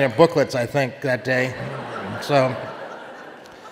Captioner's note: audience laughing